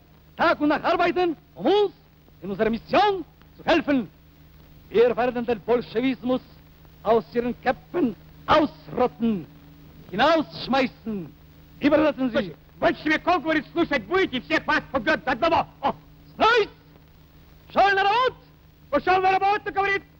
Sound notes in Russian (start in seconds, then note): 2.3 говорит по-немецки; 7.0 говорит по-немецки